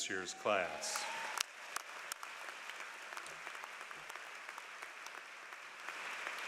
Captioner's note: applause